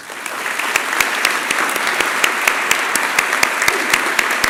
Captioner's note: applause